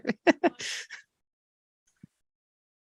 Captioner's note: laughs